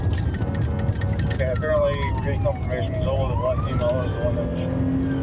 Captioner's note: siren wailing